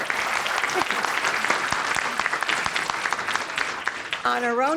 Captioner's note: applause